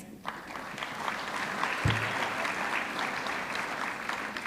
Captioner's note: audience clapping